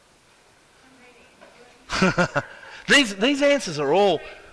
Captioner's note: laughs